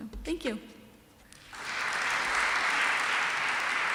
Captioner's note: applause